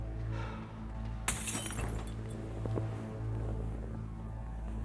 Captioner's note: glass shattering